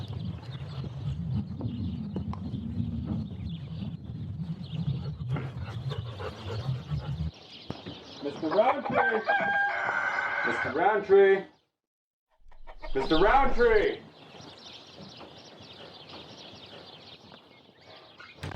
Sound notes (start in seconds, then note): 8.8 rooster Caw